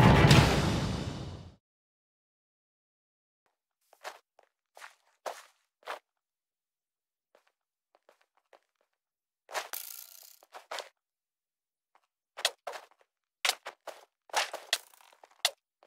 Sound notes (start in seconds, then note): 1.4 footsteps